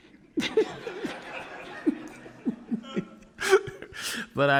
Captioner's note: audience laughing; laughing